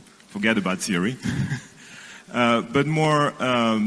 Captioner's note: chuckle